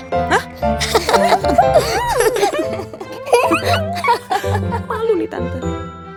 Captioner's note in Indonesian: tertawa